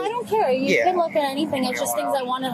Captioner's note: radio chatter